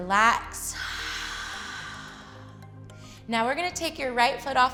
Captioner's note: exhales